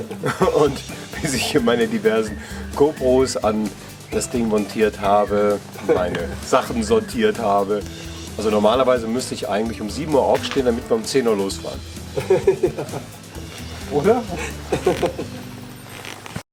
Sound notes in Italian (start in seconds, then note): 12.1 risate